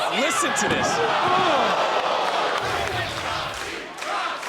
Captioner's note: audience gasps; audience chanting